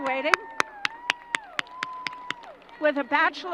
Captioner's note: crowd applause